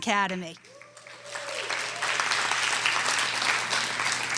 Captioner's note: audience clapping